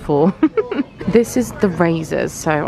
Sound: laughing

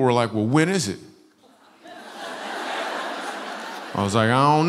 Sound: laughter

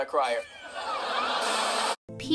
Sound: crying

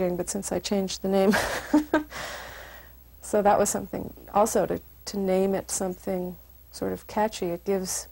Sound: laugh

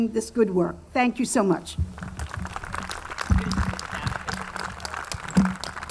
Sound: audience clapping

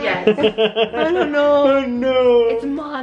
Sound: laughing

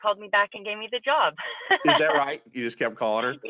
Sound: laughing

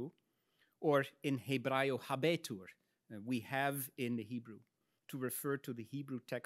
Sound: speaks in Latin

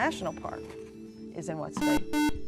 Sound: buzzer

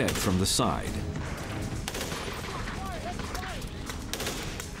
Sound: gunshots

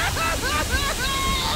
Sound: sobbing

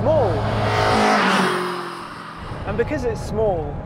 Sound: engine revving

